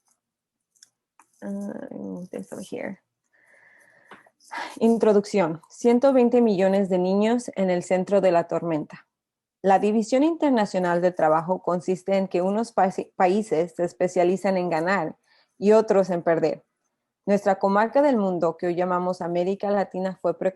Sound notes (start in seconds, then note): 5.1 spanish portion